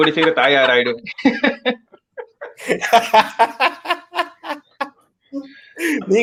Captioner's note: laughs